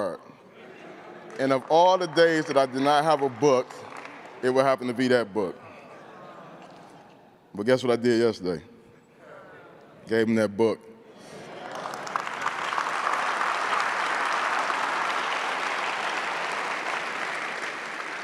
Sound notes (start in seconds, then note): 0.3 crowd laughing; 11.2 crowd cheering; 12.9 crowd clapping